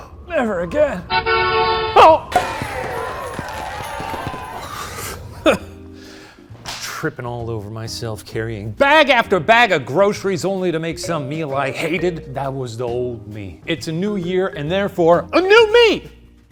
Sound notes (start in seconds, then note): 0.9 car honking; 2.2 champagne popping; 5.1 scoffs